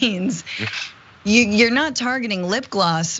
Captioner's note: laugh